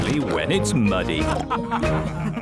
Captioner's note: all laughing